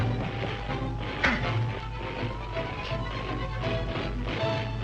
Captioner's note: object thuds